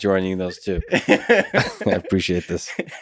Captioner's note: Tim laughs